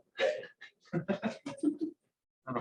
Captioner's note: laughs